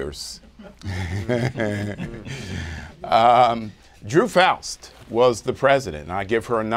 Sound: laughs

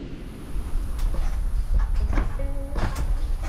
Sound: creaking; radio playing

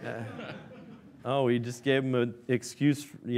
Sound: laughing

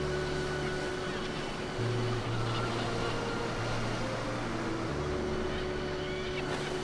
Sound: waves splashing; birds squawking

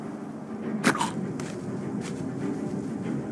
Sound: neck snapping noises

